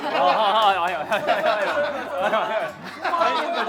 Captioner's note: hahahaha